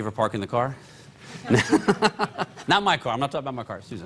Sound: laughter

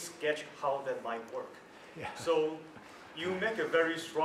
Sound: laugh

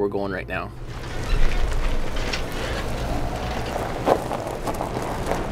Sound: trailer creaking

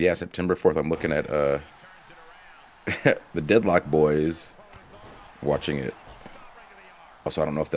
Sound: laugh

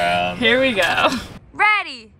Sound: all laughing

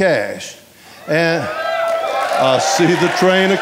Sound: audience applauding and cheering

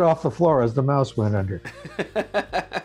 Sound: laughter

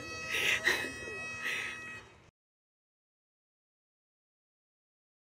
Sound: laughs

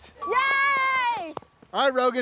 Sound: crowd cheering

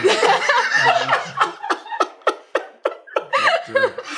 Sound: laughter

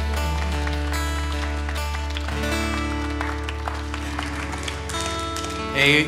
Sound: applause

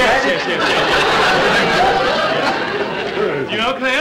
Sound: audience laughter

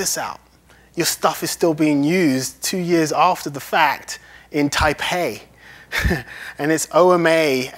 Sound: laughs

